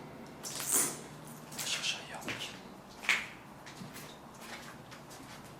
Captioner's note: speaks French